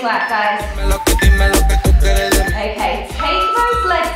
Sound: beeping

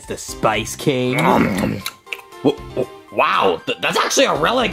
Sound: munching

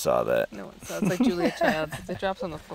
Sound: laughing

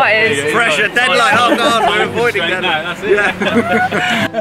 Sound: everyone talking & laughing

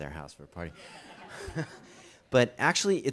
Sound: audience chuckles

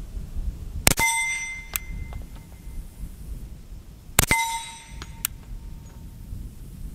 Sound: gun shots

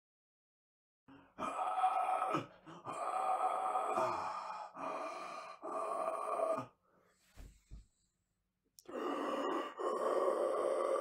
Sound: sound of breathing

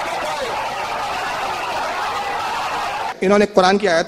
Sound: audience erupts in loud cheers and chaotic shouting

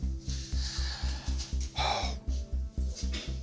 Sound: exhales

